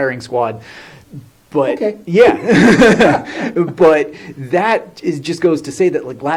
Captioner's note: laughs